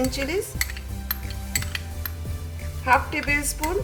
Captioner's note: spoon scraping bowl